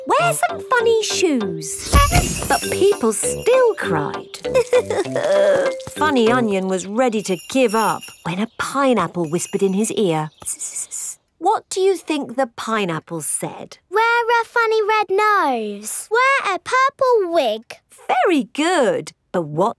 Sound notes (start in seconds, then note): 4.7 crying